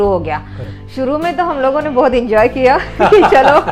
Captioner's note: laughing